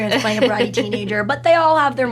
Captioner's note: laughs